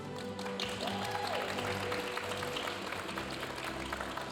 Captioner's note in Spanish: aplausos de la audiencia